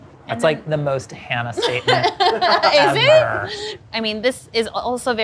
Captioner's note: laughs